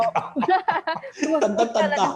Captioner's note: laughs